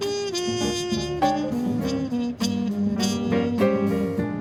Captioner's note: none